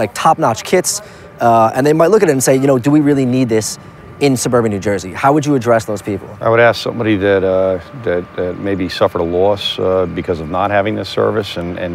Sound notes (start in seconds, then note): none